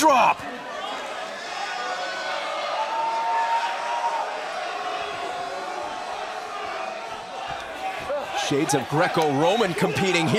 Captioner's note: crowd chatter